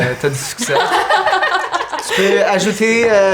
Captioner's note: laughter